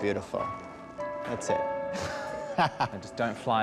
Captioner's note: laughing